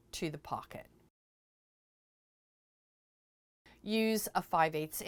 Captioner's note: no Sound Present